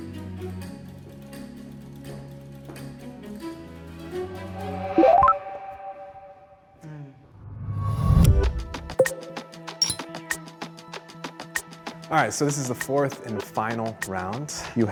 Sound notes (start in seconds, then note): 5.2 gentle music; 10.0 bricks clinking